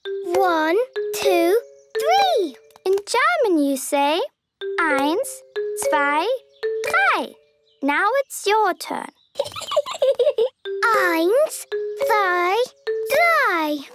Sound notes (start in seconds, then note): 9.3 Peppa giggling